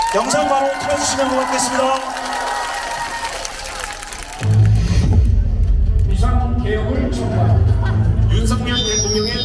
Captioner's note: applause